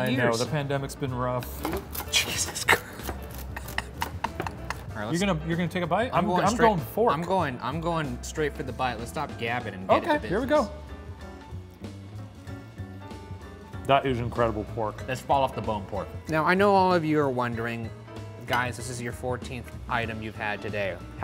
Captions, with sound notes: - I know. The pandemic's been rough. - Jesus Christ. (laughing) - You're gonna take a bite? I'm going for it. - I'm going straight for the bite. Let's stop gabbing and get into business. - Okay, here we go. That is incredible pork. - That's fall off the bone pork. Now, I know all of you are wondering, "Guys, this is your 14th item you've had today.